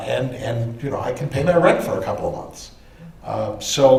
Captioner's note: none